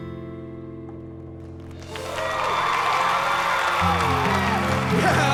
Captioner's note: cheers and applause